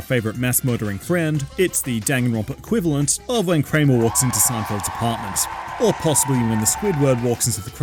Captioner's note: audience cheers